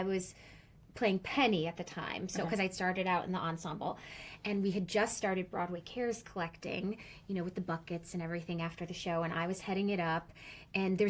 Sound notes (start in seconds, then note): none